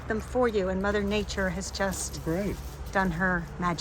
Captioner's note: leaves rustling